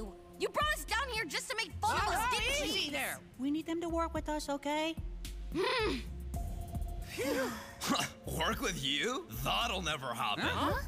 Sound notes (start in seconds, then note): 5.2 groaning; 7.1 sighing in relief